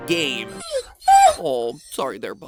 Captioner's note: Wolf Link whines